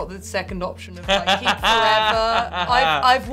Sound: Tan laughing

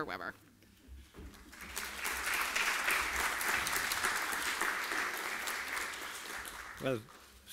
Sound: applause

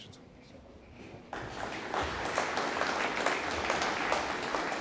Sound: audience applauding

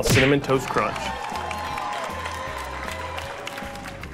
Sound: cheers

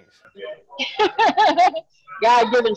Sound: laughs

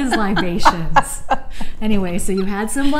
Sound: laughs

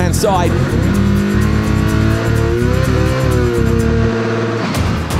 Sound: car revving

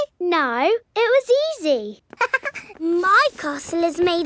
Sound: chuckles

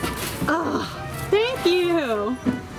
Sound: sighing

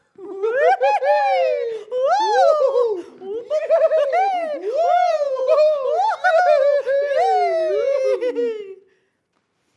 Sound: laughing

